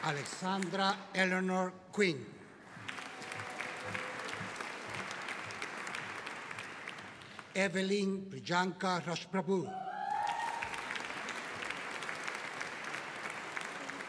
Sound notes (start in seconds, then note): 2.6 audience applauding; 9.7 audience cheering